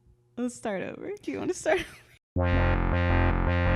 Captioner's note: laughs; funky electronic music